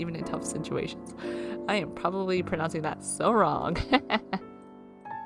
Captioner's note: laughs